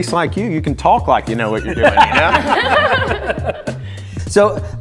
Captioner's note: laughter